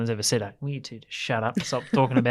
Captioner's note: laughs